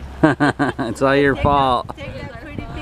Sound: laughing

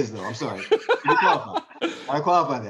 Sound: man laughing

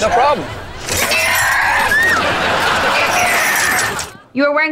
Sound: screaming

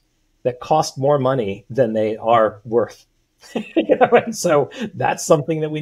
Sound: laughs

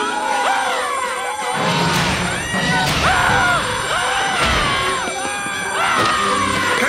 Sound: screaming

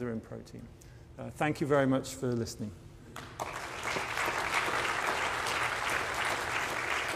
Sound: applause

